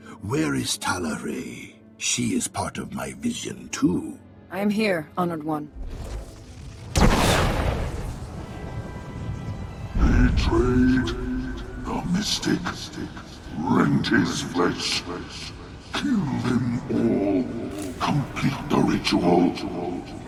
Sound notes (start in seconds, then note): 5.8 explosion